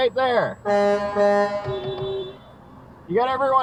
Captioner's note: big-ass-truck-honks